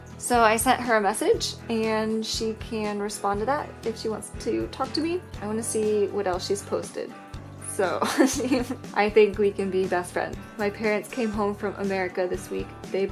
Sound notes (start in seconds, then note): 8.0 laughs